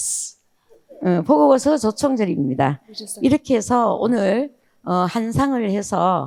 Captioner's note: speaking in foreign language